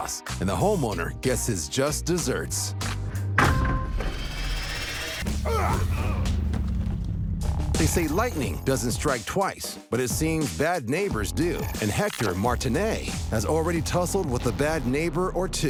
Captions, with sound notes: and the homeowner gets his just desserts. [thudding] [fighting grunts] They say lightning doesn't strike twice, but it seems bad neighbors do, and Hector Martinet has already tussled with a bad neighbor or two.